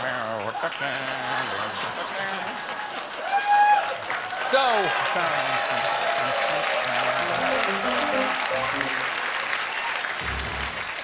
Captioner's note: applause; cheers